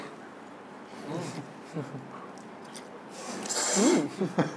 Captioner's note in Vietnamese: Cười